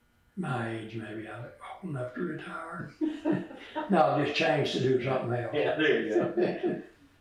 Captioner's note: laughs; laughter